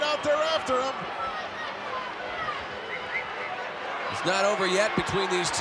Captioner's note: applause